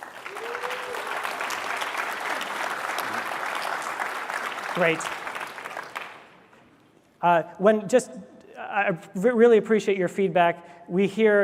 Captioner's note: applause